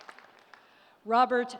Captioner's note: applause